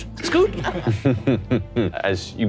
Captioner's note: laughing